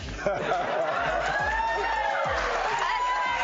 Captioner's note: laughs